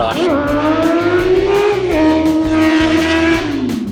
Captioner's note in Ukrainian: Звук мотоцикла